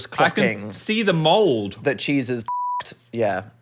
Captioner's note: beep